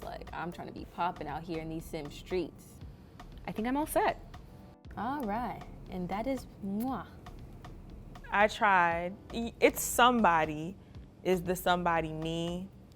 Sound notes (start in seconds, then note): 6.3 smooch